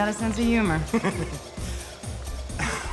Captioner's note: laughs